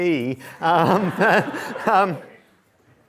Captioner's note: laughter